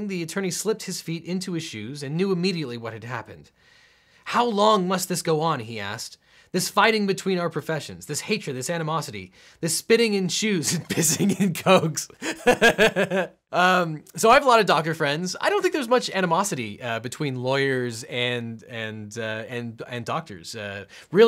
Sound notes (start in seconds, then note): 12.1 laughing